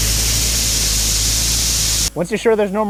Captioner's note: high pressured air